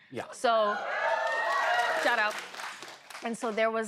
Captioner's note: cheering